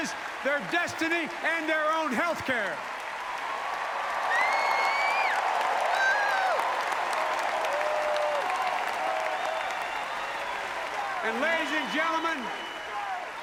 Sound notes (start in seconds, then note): 3.0 applause